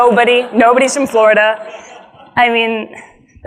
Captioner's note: audience laughs